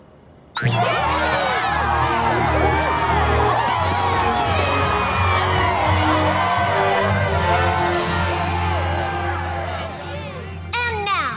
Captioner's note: cheering